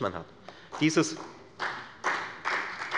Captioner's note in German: Beifall bei der FDP und bei Abgeordneten der CDU